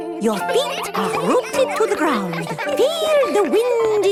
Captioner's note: all giggling